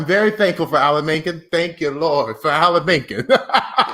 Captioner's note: laughs